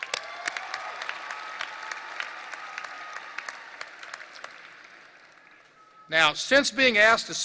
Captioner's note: audience applause and cheering